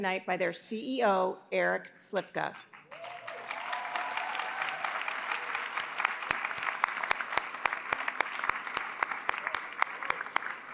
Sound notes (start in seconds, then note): 2.6 applause